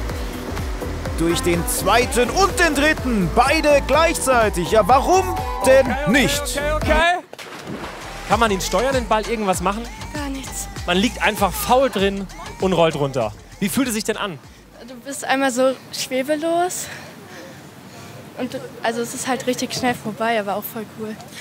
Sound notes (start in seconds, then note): 3.0 Jubel; 7.3 Plätschern